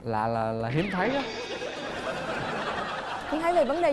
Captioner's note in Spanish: risa